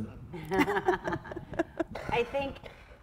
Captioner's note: women laughing